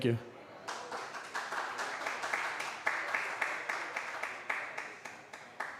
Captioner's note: applause